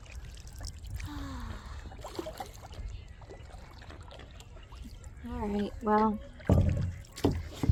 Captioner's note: sigh